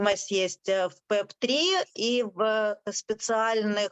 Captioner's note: speaking Ukrainian